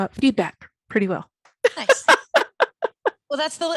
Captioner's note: laughing